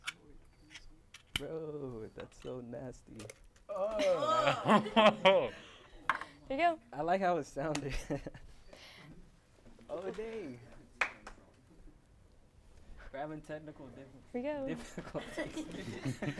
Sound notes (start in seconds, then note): 3.7 hosts groans